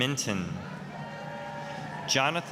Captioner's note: applause, cheering